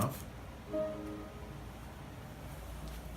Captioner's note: TV shuts down